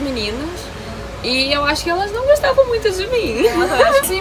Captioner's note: laugh